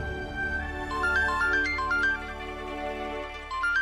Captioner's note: phone rings